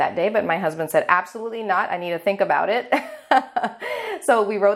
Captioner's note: laughing